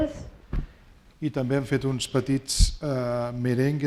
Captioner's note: speaking spanish